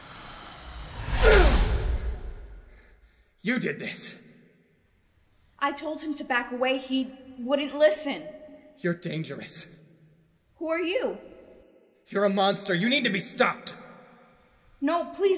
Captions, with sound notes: (Perseus grunts) -You did this. -I told him to back away. He wouldn't listen. -You're dangerous. Who are you? -You're a monster. You need to be stopped! -No, please.